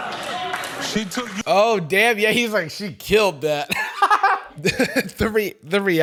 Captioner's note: laughs